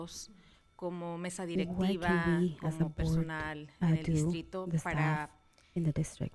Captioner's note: panelist speaking in Spanish